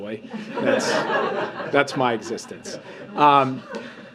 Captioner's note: laughter